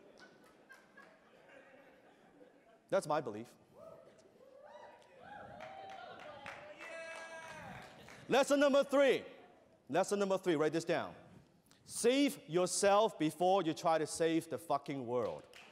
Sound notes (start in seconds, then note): 0.0 laughter; 4.4 crowd cheers